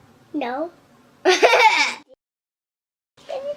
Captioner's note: laughter